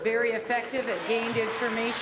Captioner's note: cheering and applause